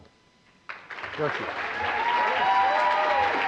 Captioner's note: applause